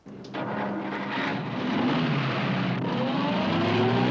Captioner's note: car engine starts